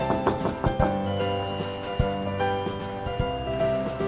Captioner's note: knocking on door